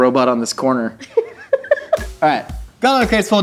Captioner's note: giggles